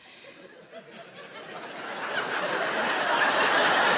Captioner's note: audience laughs